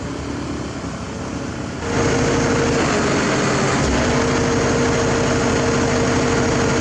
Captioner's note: hydraulic Rumble